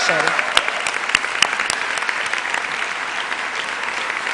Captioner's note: cheers and applause